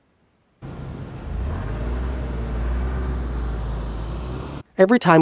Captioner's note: car engine revs up